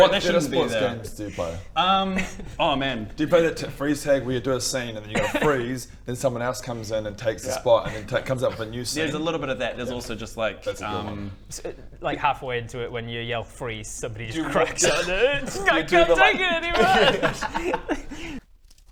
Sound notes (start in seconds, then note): 16.7 cries